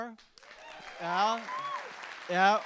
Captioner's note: audience applauding